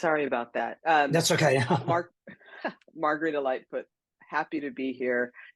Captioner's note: chuckles